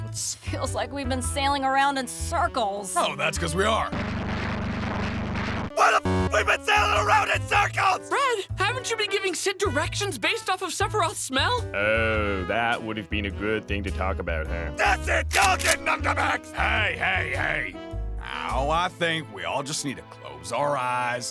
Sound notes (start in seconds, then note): 3.9 plane motor sounds